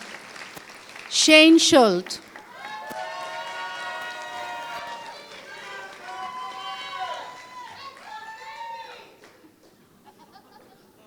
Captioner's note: applause